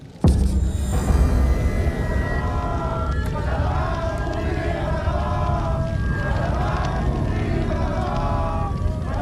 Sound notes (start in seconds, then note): 0.2 dramatic music; 2.4 chanting in foreign language; 2.4 light dramatic music